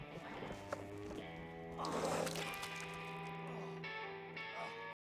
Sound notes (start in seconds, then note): 0.0 vomiting into the water